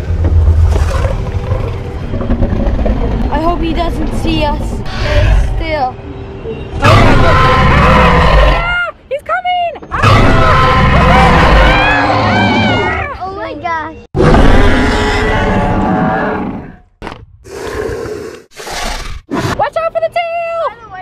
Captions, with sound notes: i hope he doesn't see us stay still [loud roar] he's coming [loud roar] [screams] oh my gosh [loud roar] [dino breathing] watch out for the tail